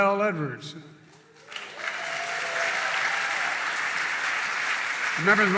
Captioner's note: applause